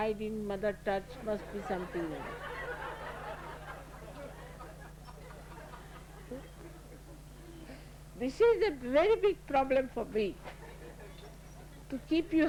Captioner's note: laughter